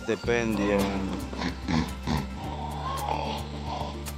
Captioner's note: pig grunting; grunting